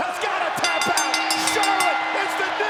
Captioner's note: bell dinging